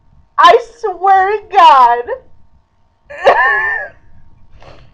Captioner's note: laughing